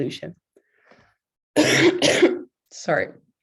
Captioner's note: coughs